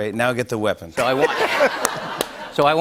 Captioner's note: laughter